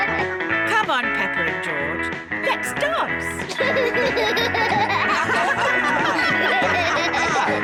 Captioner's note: all giggle; all laugh